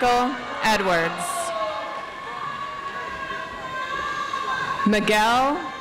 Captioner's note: audience applauds